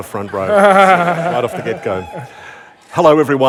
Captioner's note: laughter